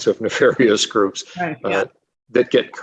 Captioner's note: agreeing